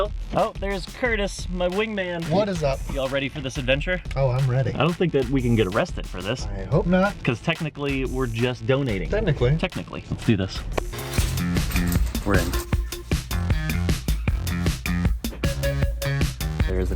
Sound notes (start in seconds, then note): 10.8 slams camera; 12.6 music continues playing